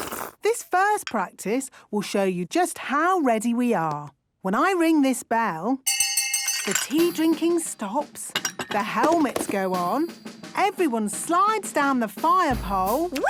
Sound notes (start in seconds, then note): 5.8 tea cups clinking; 5.8 hand bell ringing